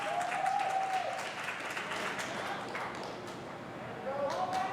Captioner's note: applause